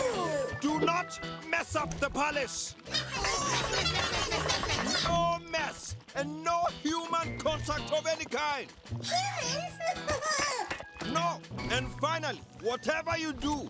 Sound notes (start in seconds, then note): 2.7 cheering; 9.1 laughing